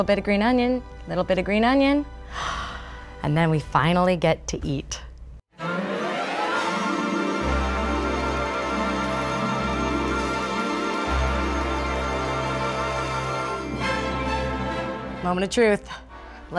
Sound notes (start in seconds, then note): 2.3 gasps; 5.4 orchestral upbeat music